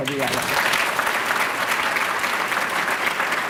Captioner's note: applause